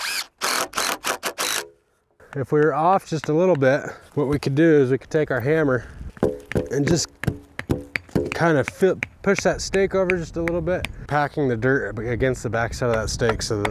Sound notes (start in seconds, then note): 0.0 drill motor spinning; 6.1 hammer thumping the ground